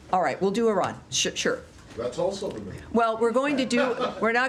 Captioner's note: laughter